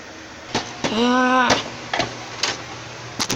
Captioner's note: groans